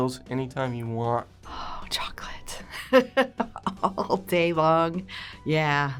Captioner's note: laughs